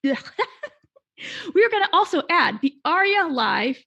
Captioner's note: laughing